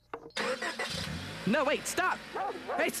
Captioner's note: car starts